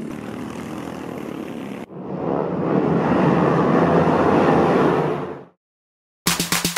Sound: racing kart sounds; clapping

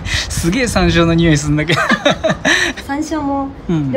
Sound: laughs; laughs

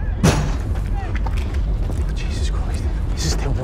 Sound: door slamming

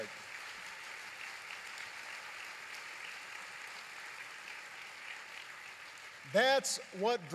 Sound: applause

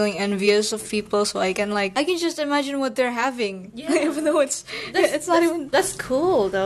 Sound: giggles

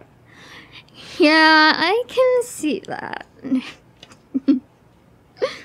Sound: laughs

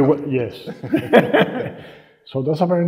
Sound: laughing

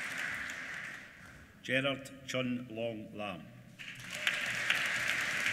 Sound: applause

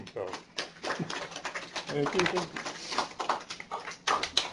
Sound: applause

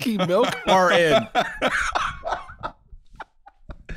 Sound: laughing

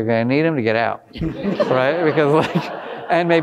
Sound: all laughing

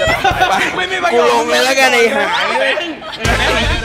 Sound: yelling

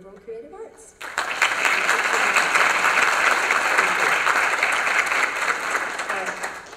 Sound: applause

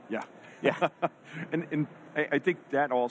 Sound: laughs

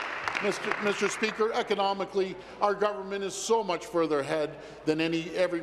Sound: applause

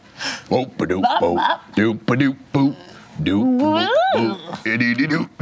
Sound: grunts in singsong

